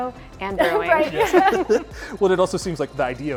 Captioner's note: all laugh